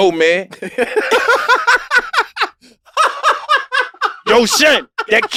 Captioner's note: laugh